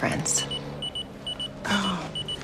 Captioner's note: pager beeping